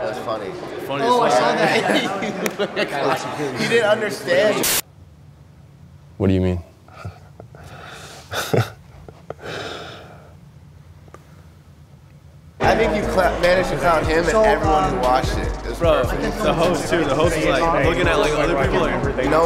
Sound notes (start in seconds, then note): 1.4 both laugh; 6.8 chuckles